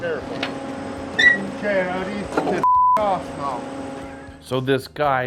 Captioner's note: beep